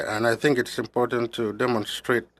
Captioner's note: speaking French